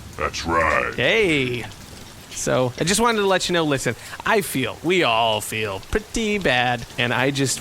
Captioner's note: triumphantly